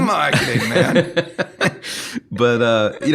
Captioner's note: laughing